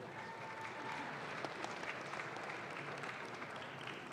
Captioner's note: audience claps